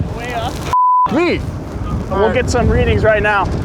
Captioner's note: beep